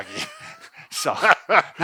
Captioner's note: laughs